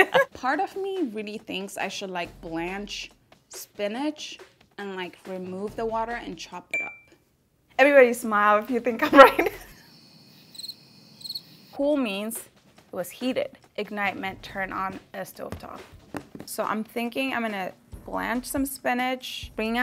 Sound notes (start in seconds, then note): 11.1 birds chirping